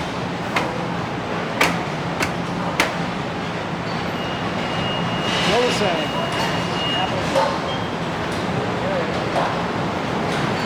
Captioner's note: factory noises